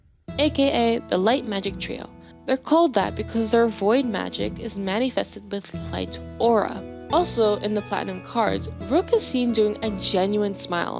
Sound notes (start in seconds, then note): none